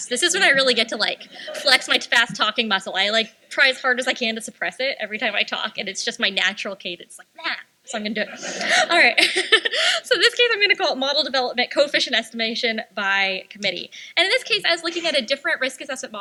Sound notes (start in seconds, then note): 8.0 laughs; 8.2 laughter